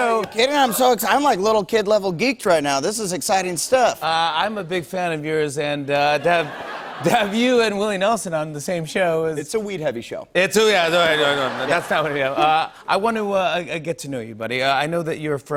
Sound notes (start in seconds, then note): 10.9 laughter